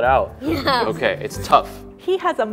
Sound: laughs

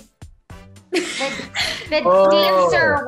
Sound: laughing

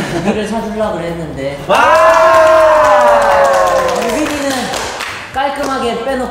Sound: clap clap

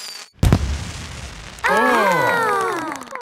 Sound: exclamations

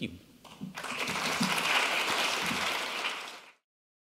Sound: audience claps

